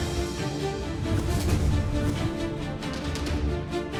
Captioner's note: dramatic music; air swooshes